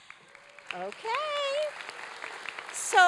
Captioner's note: applause